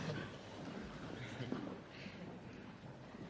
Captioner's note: laughter